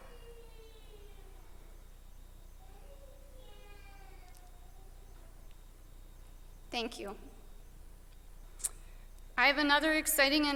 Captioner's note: moment of silence